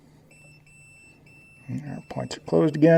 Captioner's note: beeping starts